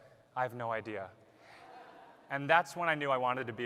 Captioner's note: laughter